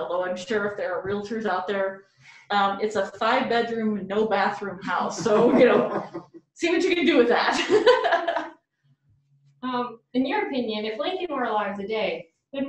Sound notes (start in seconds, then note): 5.1 laughter; 9.1 laughs